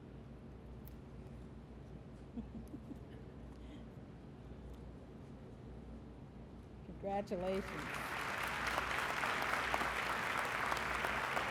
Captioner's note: applause